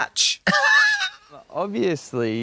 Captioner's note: Katya hee-hees